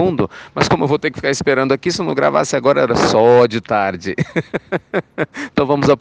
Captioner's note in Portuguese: risos